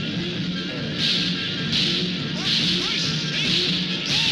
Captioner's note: gun shots firing